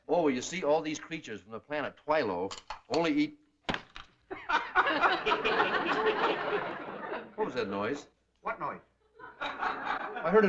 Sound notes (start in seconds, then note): 3.6 cracking